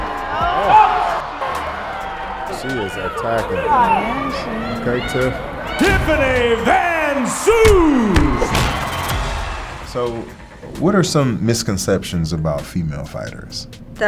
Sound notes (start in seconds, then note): 0.1 audience cheering; 5.4 audience cheering; 7.6 kick and punch thudding; 8.0 film reel rewinding